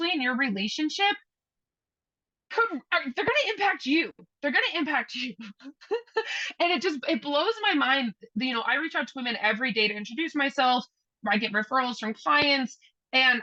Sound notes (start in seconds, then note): 5.2 chuckles